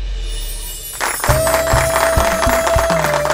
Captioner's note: All clapping